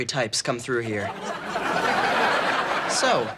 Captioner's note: audience laughing